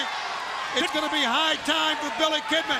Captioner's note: crowd cheering